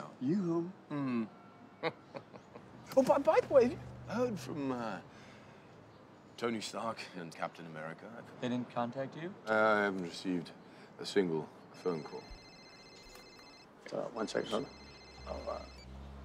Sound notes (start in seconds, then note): 1.8 chuckles; 11.8 phone trilling